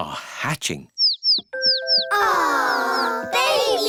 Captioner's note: chicks cheeping